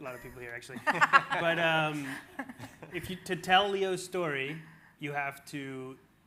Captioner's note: everyone laughing